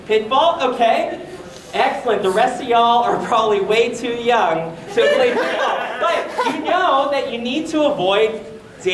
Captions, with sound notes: Pitfall? OK. Excellent. The rest of y'all are probably way too young-- (audience laughter) But you know that you need to avoid